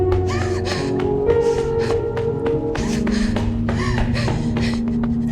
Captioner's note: crying